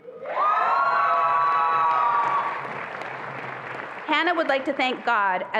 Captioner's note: attendees applauding and cheering